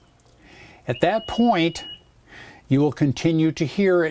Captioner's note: chirp